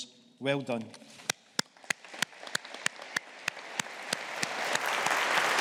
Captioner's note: audience applauding